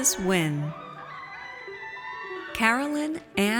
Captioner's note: audience cheers